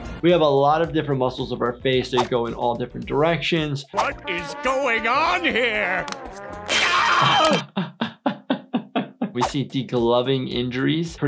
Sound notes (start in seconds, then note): 6.6 screams; 8.1 doctor laughs